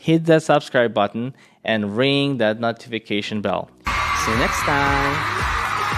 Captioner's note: audience cheering